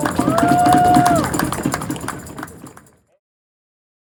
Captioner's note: cheers